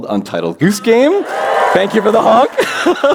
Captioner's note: applause